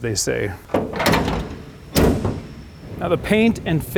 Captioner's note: car hood closes